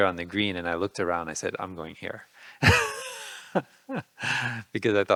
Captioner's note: laughing